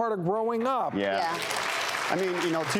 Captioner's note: audience applauds